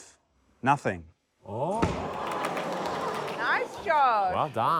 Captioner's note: rubber ducky thuds